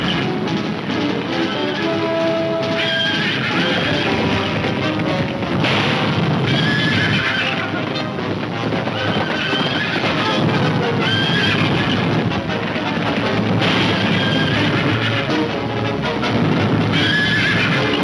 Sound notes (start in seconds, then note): 3.8 gunfire pops; 4.9 horses neighing; 12.0 gunfire pops; 14.9 horses neighing